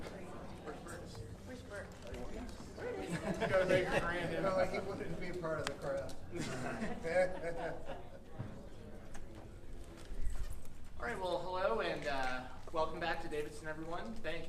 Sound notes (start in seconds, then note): 2.9 light laughter; 6.3 lighthearted laughter